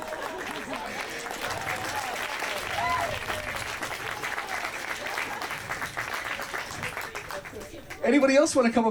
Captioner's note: audience applause